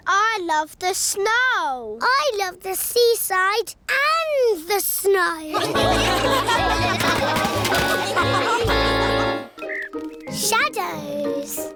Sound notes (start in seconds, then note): 5.5 laughter